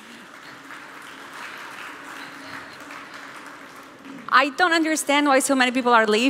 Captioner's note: applause